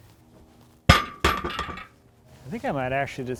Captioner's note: wood clunking